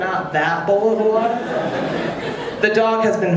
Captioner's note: audience laughing